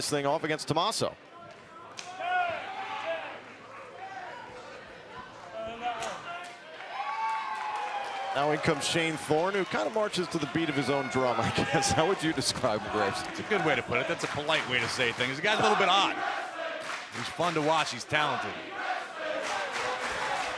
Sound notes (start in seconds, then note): 3.5 crowd chatter; 4.9 crowd cheering